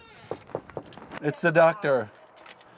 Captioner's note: knocking